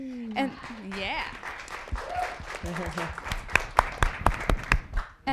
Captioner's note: audience applauding